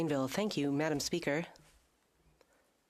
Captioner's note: speaking French